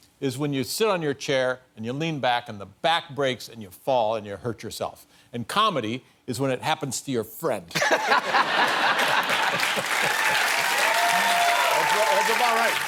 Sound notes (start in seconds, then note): 7.7 laughter; 11.0 applause